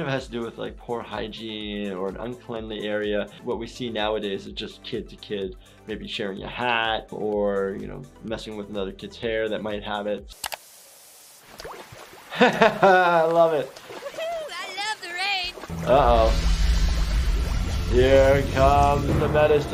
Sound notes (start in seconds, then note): 10.3 shower water spraying; 12.3 amused chuckling; 16.3 soft background cymbals crashing